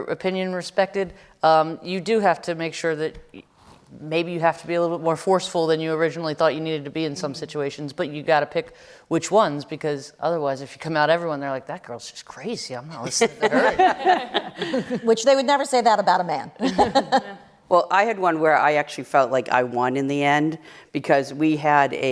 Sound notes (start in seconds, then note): 13.1 laughter; 16.6 laughter